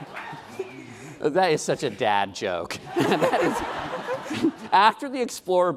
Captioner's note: laughing